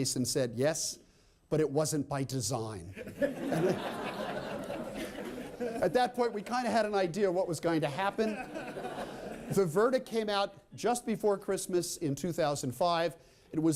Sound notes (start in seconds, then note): 2.9 laughter